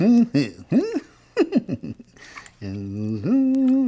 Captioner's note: chuckling